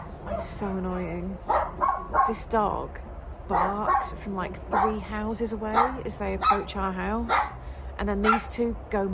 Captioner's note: barking continues